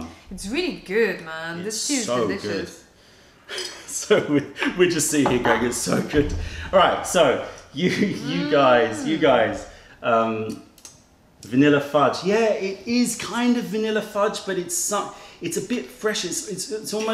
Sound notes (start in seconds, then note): 3.7 laughter